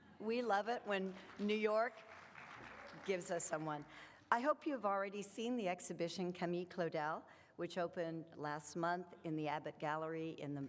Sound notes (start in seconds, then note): 2.5 audience clapping